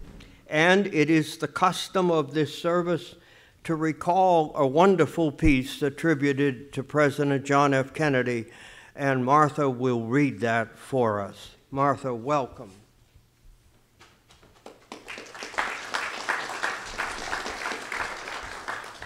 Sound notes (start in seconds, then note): 14.5 audience applauds